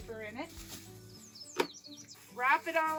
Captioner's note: birds chirping